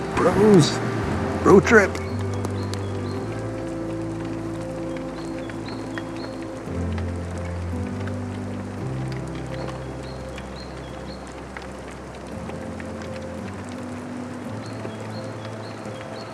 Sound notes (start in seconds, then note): 2.6 gentle music; 2.6 river rushing